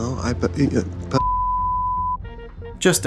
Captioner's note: tone